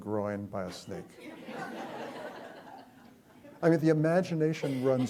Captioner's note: chuckling